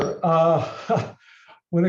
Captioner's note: chuckles